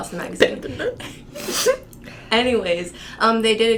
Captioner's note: sniffle